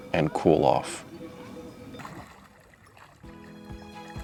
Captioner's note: sound of water